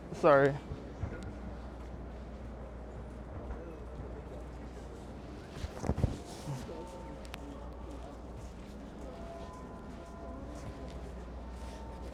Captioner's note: people chattering